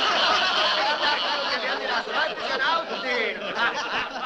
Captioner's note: boisterous laughter